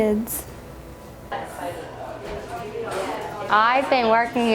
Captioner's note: employees conversing